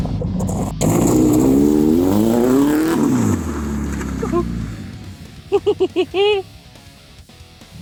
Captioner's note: engine revving; laughing